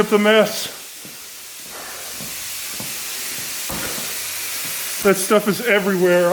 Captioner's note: coolant hissing